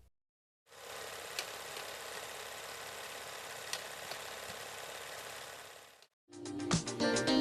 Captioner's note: film reel spinning